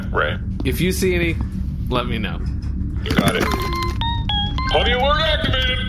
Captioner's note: AJ’s armor chimes